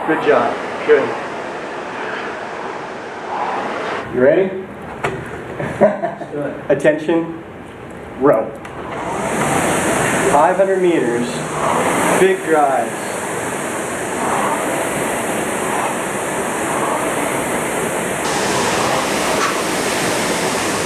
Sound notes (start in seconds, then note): 4.9 laughs